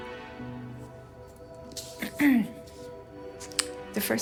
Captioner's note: paper stirring; clearing throat